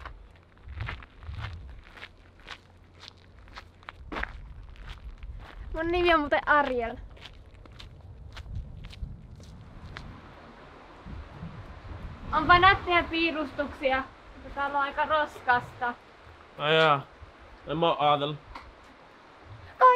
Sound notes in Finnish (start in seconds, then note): 9.8 liikenteen ja kaupungin ääniä